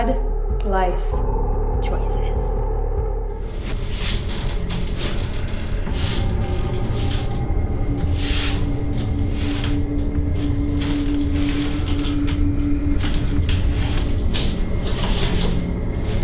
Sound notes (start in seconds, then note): 4.8 floor boards creaking